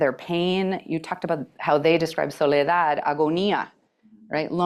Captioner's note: spanish